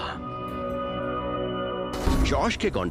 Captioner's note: narrating